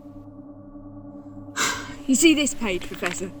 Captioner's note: Ace sighs